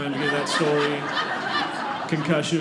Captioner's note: audience laughing